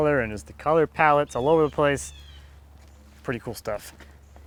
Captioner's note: none